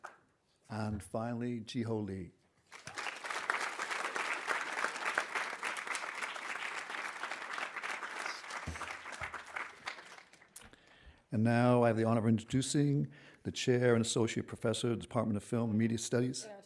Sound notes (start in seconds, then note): 2.7 audience applauding